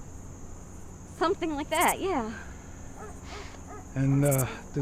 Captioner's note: distant dog barking